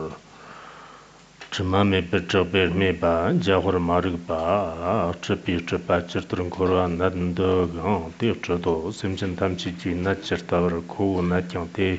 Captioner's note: giving oral transmission in Tibetan